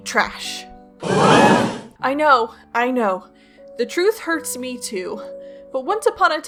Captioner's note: gasp